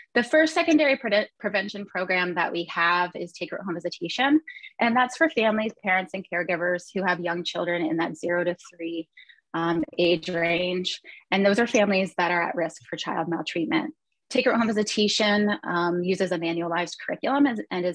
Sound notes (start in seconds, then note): none